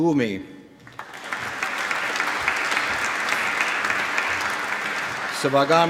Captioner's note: applause